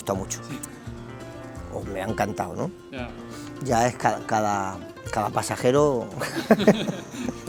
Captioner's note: laughs